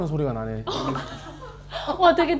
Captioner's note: bursts out laughing